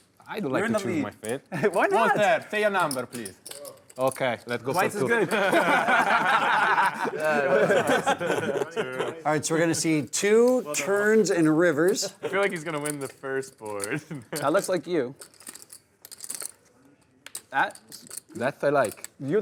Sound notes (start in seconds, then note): 4.0 voiceover; 6.5 players laughing; 12.1 voiceover